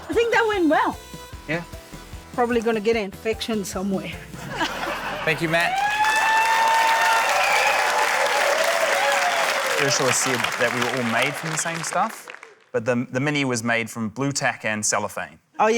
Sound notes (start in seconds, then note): 7.3 cheering, applause